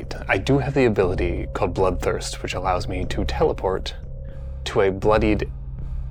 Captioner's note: none